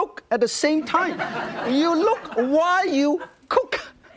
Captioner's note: audience laughing